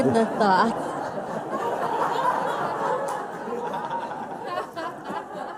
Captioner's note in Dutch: gelach